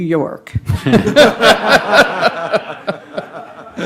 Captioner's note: laughing